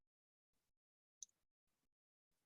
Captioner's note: click